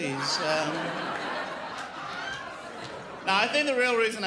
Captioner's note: crowd laughs